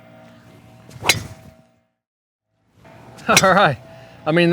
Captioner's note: hitting a golf ball